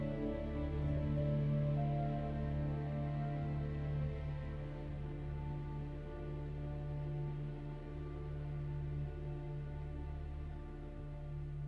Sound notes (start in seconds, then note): none